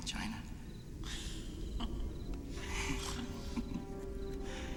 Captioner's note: laughing